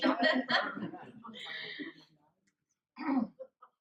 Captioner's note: laughter